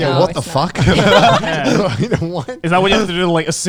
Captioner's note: all laughing